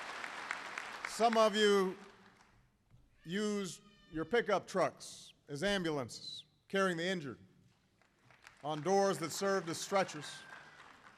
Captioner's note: applause